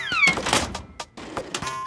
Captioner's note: toy squeaks